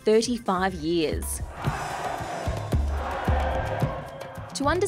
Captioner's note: crowd cheers